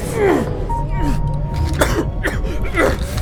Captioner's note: Ryder grunts in pain; Ryder coughs; Ryder grunts in pain